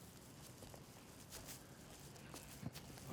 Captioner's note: footstep